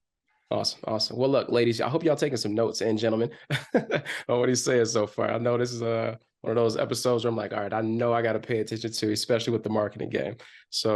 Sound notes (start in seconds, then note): 3.2 chuckles